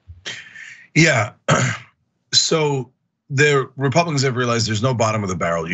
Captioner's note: cough